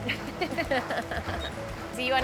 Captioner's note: both laugh